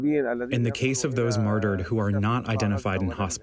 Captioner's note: through translator